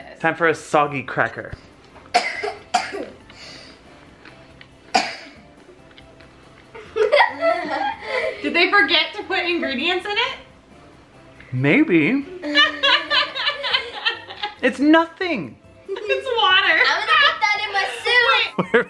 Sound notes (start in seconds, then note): 2.2 coughing; 6.7 laughing; 12.3 laughing